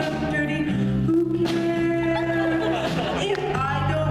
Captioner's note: laughter